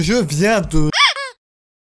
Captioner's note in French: pouet de canard